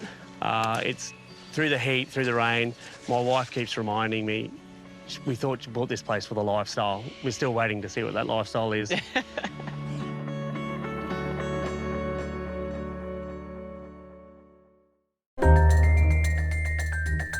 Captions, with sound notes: Er, it's through the heat, through the rain. My wife keeps reminding me we thought...she'd bought this place for the lifestyle. We're still waiting to see what that lifestyle is. (LAUGHS)